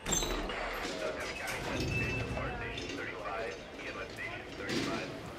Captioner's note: chaotic hospital noise